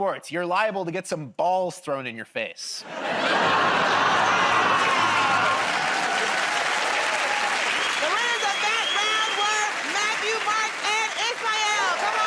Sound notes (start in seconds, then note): 3.0 laughter, buzzing; 6.2 cheers and applause